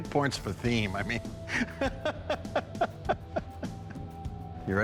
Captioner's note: laughter